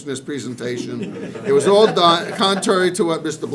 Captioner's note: people laughing